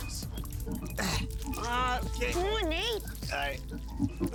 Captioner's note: grunting